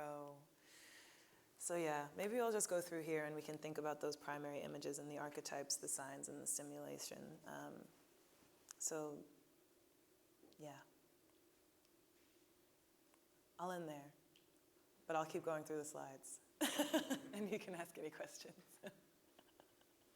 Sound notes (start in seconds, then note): 16.6 laughing